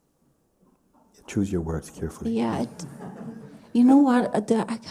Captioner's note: laughter